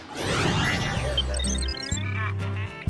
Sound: laughter

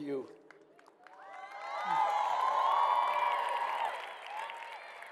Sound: congregation cheers

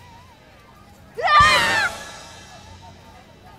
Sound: yelling

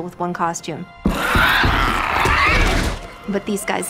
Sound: infected screeching

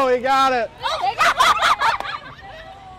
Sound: more laughing, adults are cracking up now too

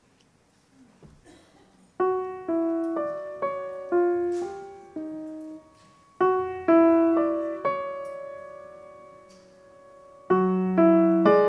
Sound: spoken Word, echoing effect

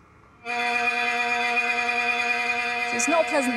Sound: buzzing

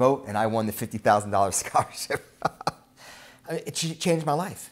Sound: laughs

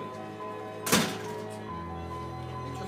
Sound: door closes

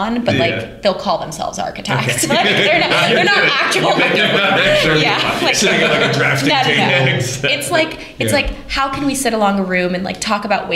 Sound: laughter

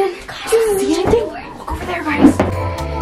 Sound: whispering

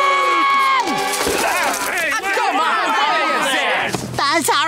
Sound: screaming; yelling

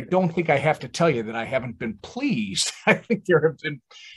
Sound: laughs

